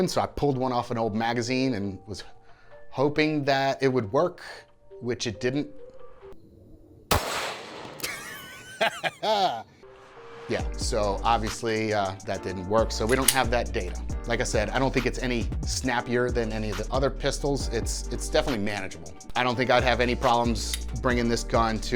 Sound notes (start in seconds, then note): 7.1 gunshot bangs; 8.0 laughing